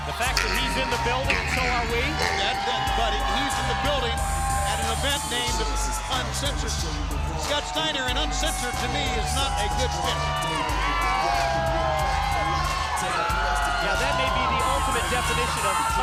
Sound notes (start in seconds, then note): 10.9 crowd cheering